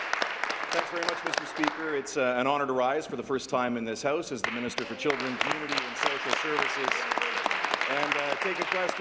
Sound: applause

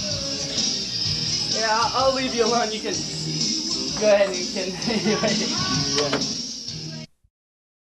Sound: laughter

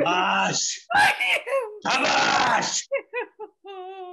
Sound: screams; roars; anjali sobs

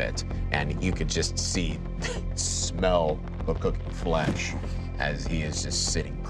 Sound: chuckles

